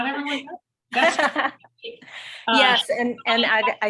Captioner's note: laughing